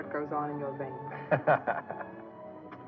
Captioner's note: Vince chuckling